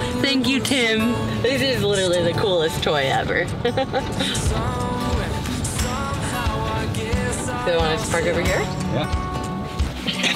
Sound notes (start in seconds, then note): 3.6 chuckling